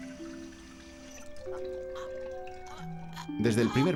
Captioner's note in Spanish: gruñiendo